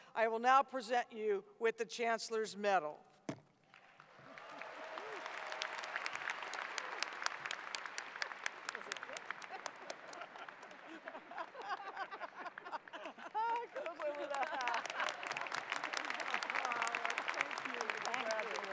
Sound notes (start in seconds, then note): 4.3 audience applause; 8.8 laughter; 14.9 applause